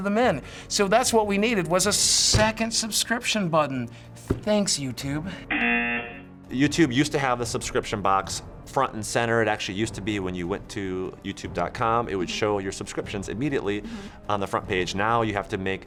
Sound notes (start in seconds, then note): 5.5 buzzer